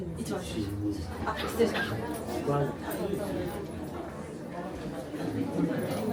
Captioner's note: cast Member speaking in Japanese; guests speaking in foreign language